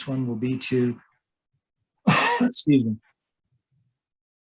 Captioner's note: coughs